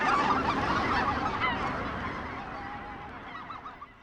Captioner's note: birds call